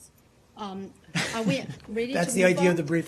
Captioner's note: laughter